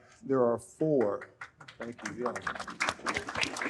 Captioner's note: audience applauds